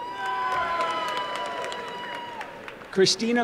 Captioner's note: applause and cheering